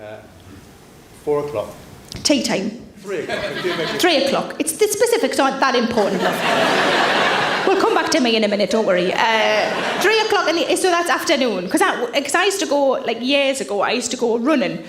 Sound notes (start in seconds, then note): 5.8 audience laughs